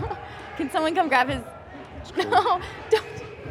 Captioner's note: laughs